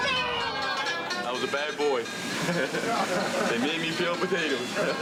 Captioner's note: cheering; laughs